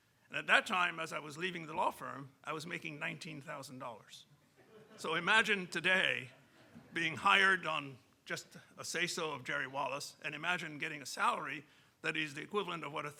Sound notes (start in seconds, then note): 4.5 audience chuckling